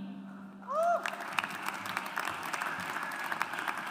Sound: audience applauds

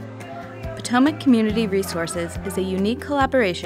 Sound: voiceover

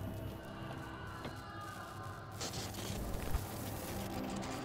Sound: distant screams

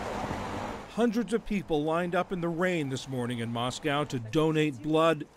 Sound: voice-over

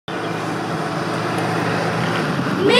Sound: truck driving

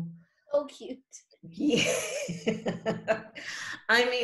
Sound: laughs

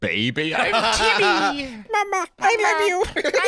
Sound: baby voice

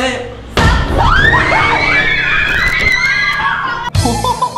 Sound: slammed; laughs

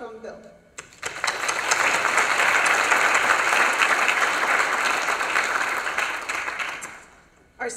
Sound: applause

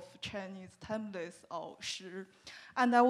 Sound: speaking Chinese

